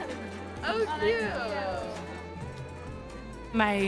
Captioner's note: students chattering